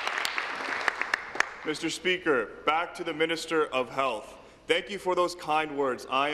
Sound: applause

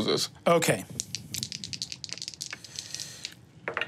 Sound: dice rattling

